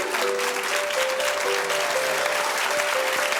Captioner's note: audience cheering